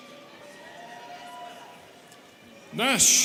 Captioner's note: students cheering